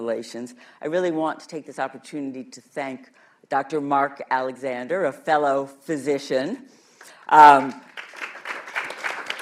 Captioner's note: applause